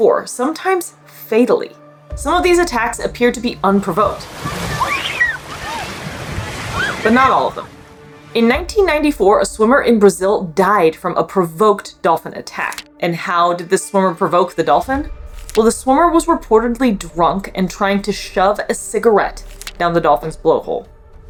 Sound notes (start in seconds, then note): 4.3 water splashing noise; 4.4 screaming; 21.1 background music